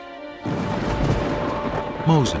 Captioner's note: thunderclap